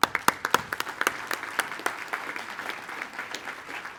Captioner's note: attendees applaud